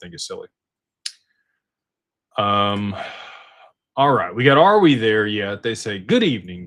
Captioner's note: sighs